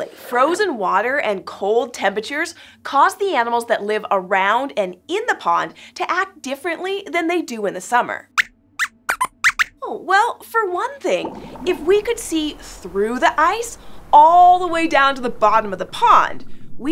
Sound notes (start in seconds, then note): 8.8 squeaks squeaks